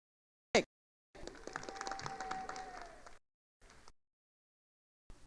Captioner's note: attendees applauding